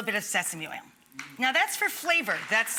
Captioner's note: audience applauding